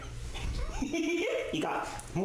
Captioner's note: laughs